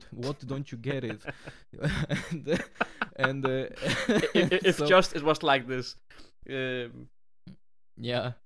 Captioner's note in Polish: śmiech